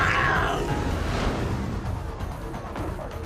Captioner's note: growling